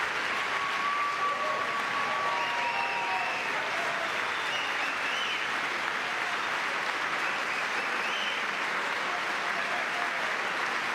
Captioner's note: cheering; applause